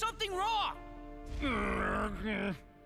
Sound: grunting

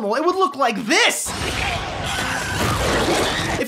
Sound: screaming

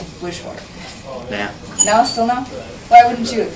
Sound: voiceover

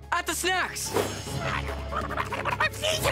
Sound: growling

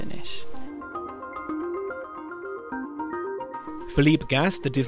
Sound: voiceover

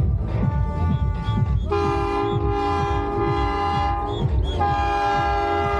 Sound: loud truck honking

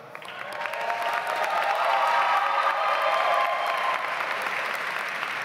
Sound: audience applauds

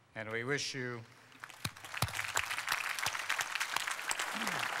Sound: applause

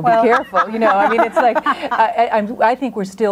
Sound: group laughs

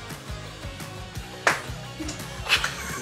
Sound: bubble pop!; laughing

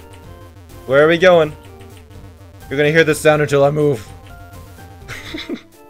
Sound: laughs

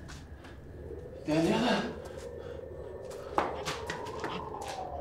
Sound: speaking foreign language

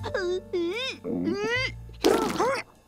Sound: stammering

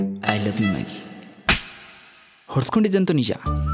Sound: slap

